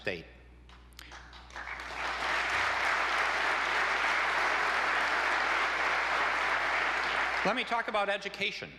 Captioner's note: applause